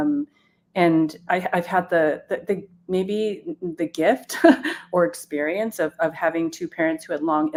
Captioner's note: chuckles